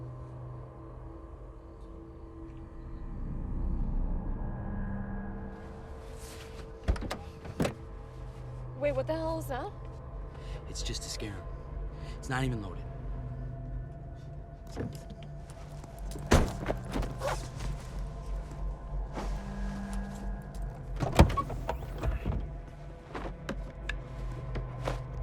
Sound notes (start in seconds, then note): 0.1 crickets chirping; 0.1 tense music; 6.8 door unlatching; 13.3 tense music; 16.1 door slams; 16.9 tense music; 20.8 trunk unlatching; 21.9 tense music; 25.0 trunks slams